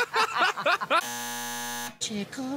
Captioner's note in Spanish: zumbador